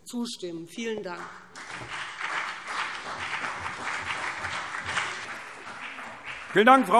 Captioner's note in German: Beifall BÜNDNIS 90/DIE GRÜNEN und CDU